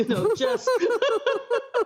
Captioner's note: laughter